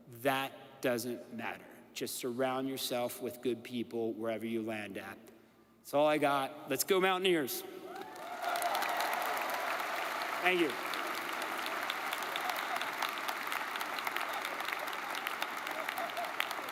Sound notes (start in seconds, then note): 7.9 audience cheers and applauds